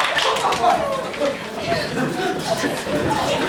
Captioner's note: hubbub